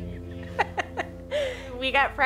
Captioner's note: laughter